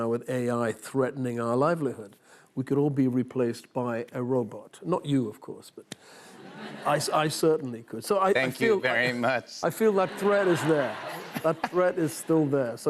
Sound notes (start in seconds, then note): 7.9 robotically